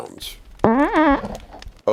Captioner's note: snoopy farts